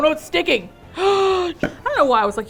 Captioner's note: gasps